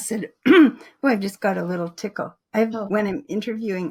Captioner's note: coughs